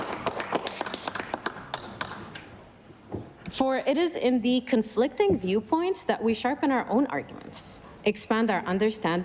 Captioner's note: applause